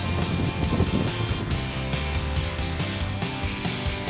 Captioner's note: wind